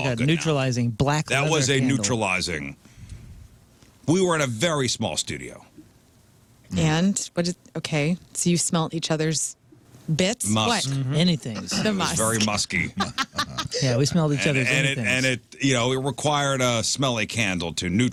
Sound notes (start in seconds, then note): 13.6 laughing